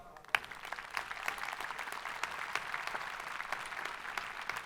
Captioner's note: crowd applauding